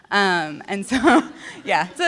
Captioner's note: laughter